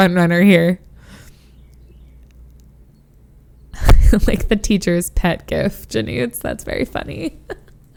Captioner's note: laughs